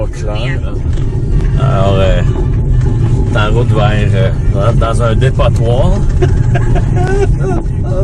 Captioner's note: laughs